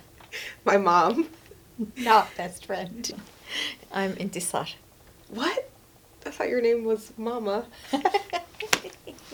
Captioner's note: laughs